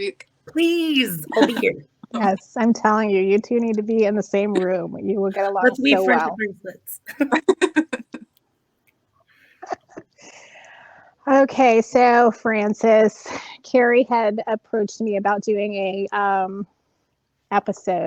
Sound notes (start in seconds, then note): 10.1 laughing